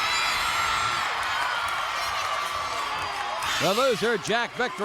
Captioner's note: crowd cheers